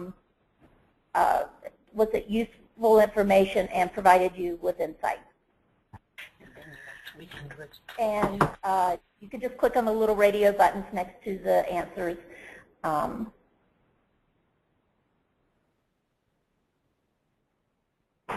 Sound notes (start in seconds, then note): 13.5 silence